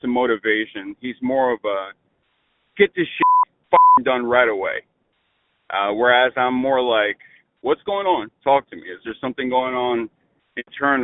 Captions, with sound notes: motivation, he's more of a, get this (beep) done right away. Whereas I'm more like, what's going on? Talk to me. Is there something going on internally?